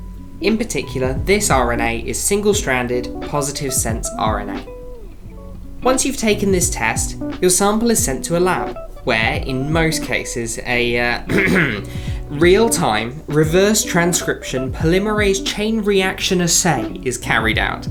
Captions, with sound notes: In particular, this RNA is single stranded, positive sense RNA. Once you’ve taken the test, your sample is sent to a lab, where, in most cases, a (clears throat) real time, reverse transcription polymerase chain reaction assay is carried out.